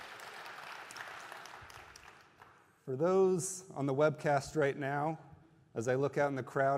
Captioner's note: applause